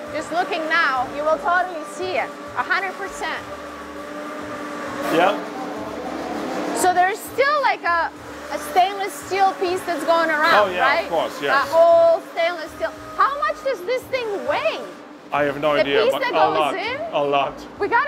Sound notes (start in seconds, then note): 3.4 machinery whirring